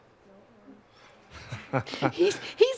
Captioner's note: laughter